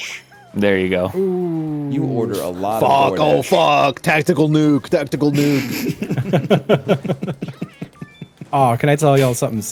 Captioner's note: laughs